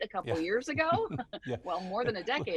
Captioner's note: laughs